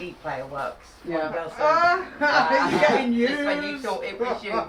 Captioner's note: laughs